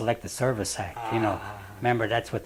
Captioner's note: laughs